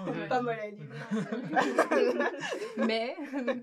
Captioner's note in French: rires